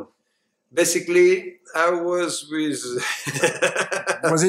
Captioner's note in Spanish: risas